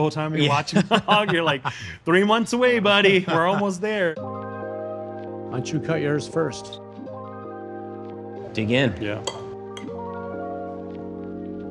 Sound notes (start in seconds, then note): 0.4 laughs